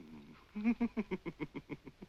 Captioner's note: giggles